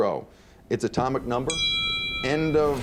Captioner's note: bell ringing